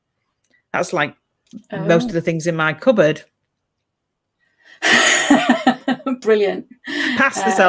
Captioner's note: laughs